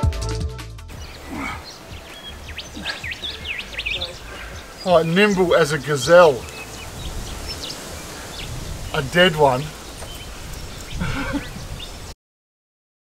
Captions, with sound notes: Alright. Nimble as a gazelle. A dead one. (laughs)